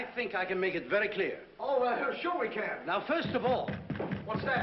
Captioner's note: knocking